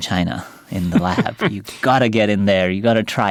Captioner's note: chuckles